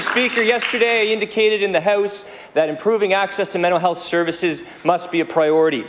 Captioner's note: applause